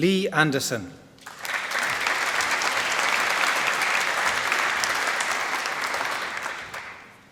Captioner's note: applause